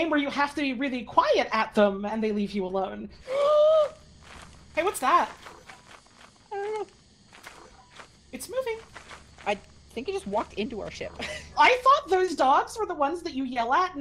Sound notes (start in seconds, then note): 3.1 gasps; 6.7 whimpers; 10.9 laughs